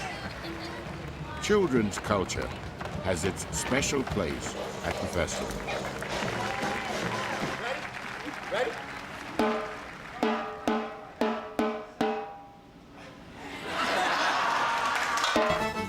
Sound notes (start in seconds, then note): 5.7 percussion and cheering; 13.3 crowd laughs